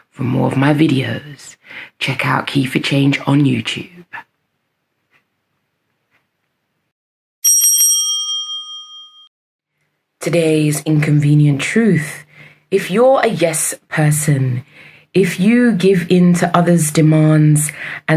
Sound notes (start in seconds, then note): 7.4 bell rings